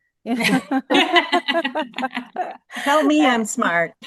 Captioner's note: laughter